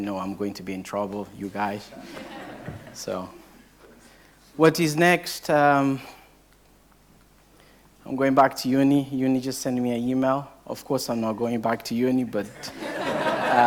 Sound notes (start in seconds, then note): 1.9 audience laughing; 12.5 audience laughing